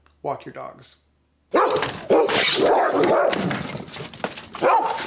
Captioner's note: barking dogs